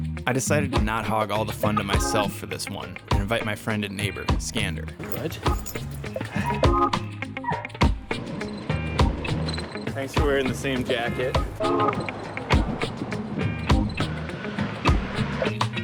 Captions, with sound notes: I decided to not hog all the fun to myself for this one, and invite my friend and neighbor Skander. Good. (dog yelps) Thanks for wearing the same jacket. (funky music)